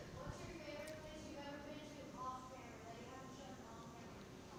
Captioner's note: speaking softly